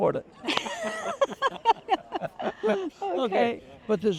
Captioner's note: both laughing